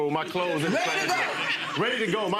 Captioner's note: audience laughing